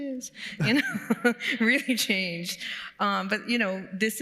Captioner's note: laughs